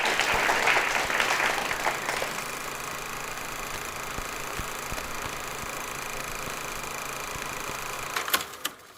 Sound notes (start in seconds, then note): 0.0 film reel spooling